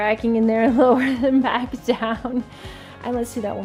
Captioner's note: chuckles